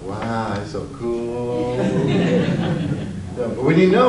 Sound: audience laughs

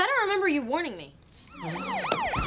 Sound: groans

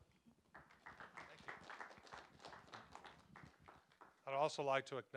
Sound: applause

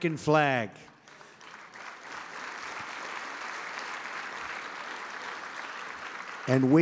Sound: applause

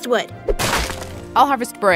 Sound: wood thudding

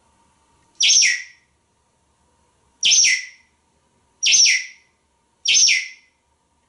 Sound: more whistling

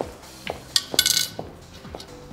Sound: single coin clinks

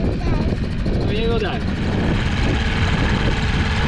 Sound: dinghy engine

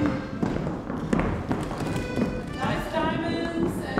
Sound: footsteps clomping

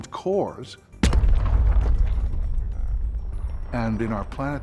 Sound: impact sound

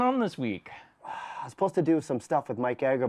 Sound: sighs

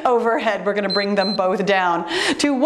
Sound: timer beeps

